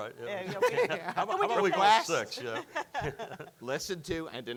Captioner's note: all judges laughing